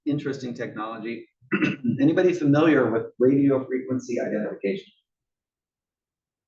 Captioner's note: cough